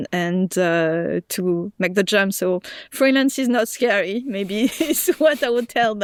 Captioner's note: laughs